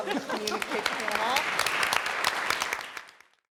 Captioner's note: applause